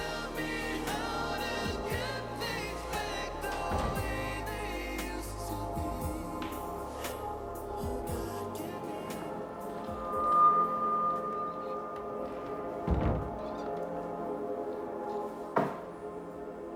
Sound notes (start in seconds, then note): 11.9 thumps